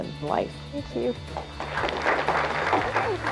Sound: applause

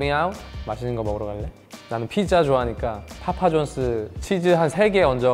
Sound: speaking in Korean

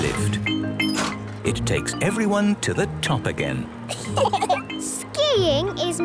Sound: laughter

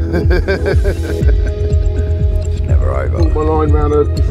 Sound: chuckling

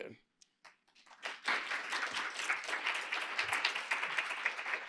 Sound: applause

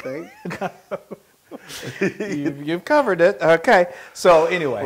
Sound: laugh

